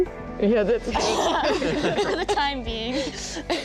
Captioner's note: all laugh